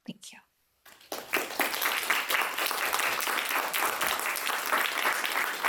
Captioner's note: audience applauding